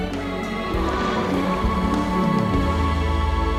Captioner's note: whale paddling